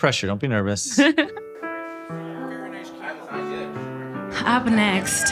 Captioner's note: chuckles